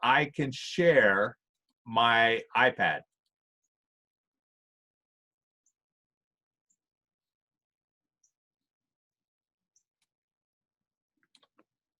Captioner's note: silence